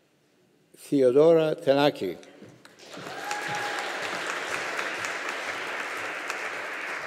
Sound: audience applauding

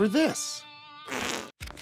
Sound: fart sound

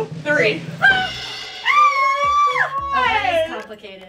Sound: screaming

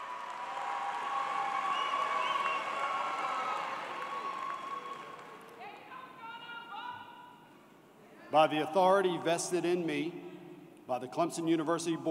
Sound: cheers and Applause

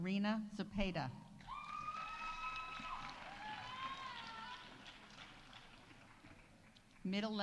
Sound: audience cheering; audience applauding

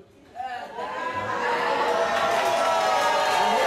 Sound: audience jeers

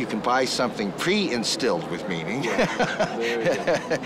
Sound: laughing

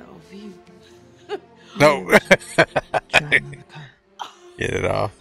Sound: laughing

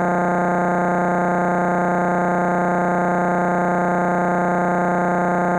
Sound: electronic buzzing continues

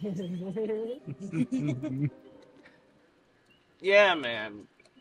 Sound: Buick giggling

